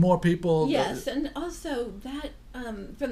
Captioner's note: voiceover